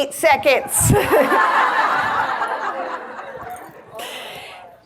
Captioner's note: audience laughs